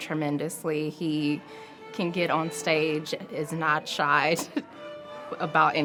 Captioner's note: laughs